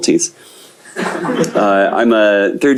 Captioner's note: laughter